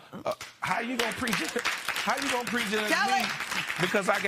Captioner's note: applause